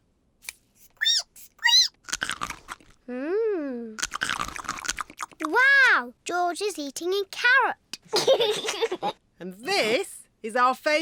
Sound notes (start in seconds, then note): 0.9 squeaks and crunches; 8.1 giggles